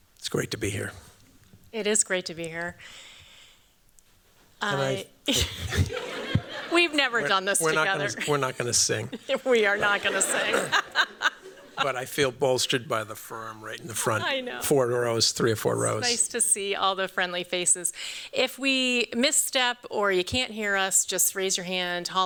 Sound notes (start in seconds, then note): 5.2 laughter; 10.5 chuckles